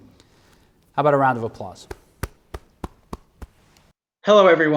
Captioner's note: clapping